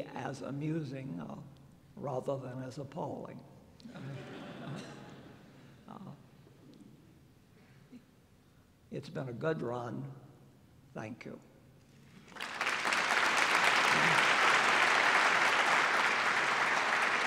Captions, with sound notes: as amusing, rather than as appalling. [LAUGHTER] It's been a good run. Thank you. [APPLAUSE]